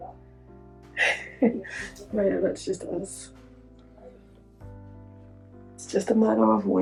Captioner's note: giggles